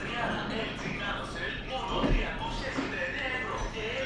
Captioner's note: radio chatter in Greek